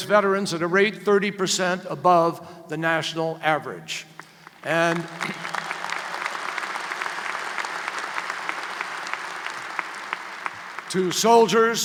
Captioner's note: applause